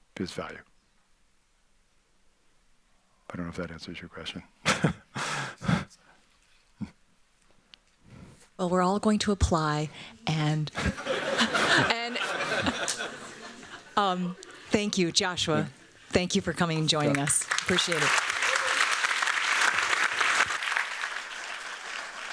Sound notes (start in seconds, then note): 10.7 laughter; 18.7 applause